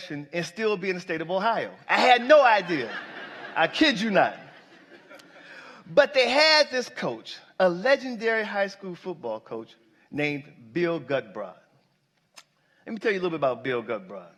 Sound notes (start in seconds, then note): 5.8 laughter